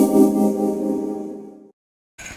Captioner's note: Ethereal zing - Boot Hygiene Stations